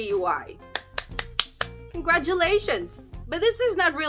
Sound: clapping

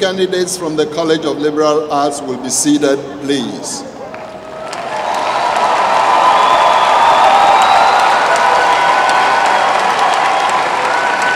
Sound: applause

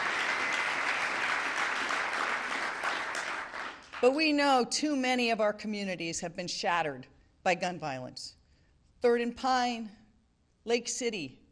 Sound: applause

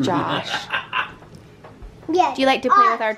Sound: laughs

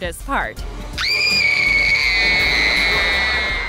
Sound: screaming

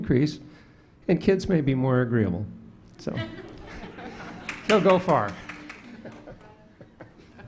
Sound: laughter

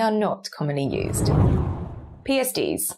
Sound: screen whooshes

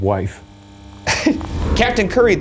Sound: chuckles

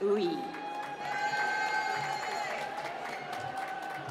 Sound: cheering

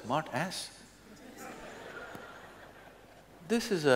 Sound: laughter

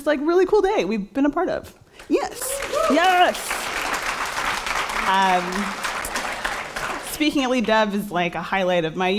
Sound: cheering and applause

